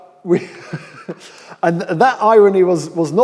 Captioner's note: laughs